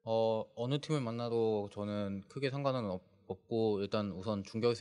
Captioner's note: speaking korean